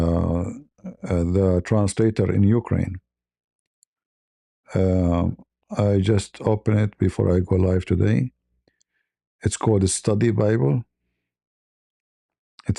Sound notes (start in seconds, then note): none